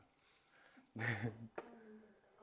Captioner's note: chuckles